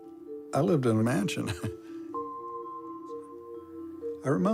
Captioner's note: laughs